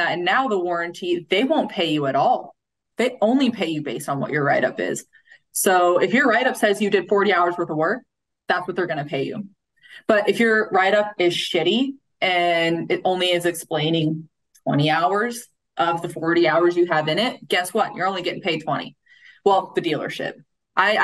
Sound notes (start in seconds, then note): none